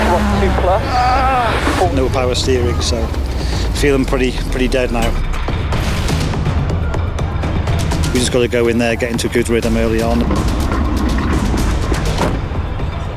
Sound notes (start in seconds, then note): 0.0 driver groans; 4.8 tool noises; 11.8 door slams